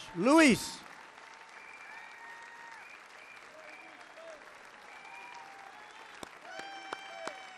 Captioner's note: applause